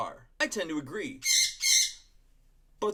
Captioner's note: birp! Bird! Parrot Squawks